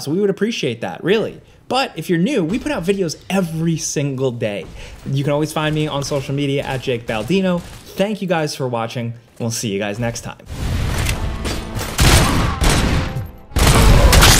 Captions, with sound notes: we would appreciate that, really. But, if you're new, we put out videos every single day. You can always find me on social media at JakeBaldino. Thank you guys for watching, and we'll see you guys next time. (portentous orchestral music) (gun fires) (criminal yells)